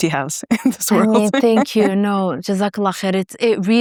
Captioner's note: speaking foreign language